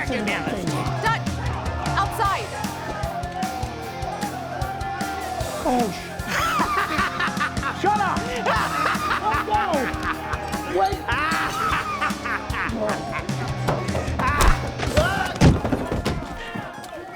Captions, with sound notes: Get me out of this chair! Dutch, outside. -Oh, sh- -[Zeke laughing] Shut up! Waco! Hold on! [loud thud] [Zeke falls]